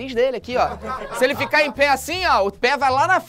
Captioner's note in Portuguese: risadas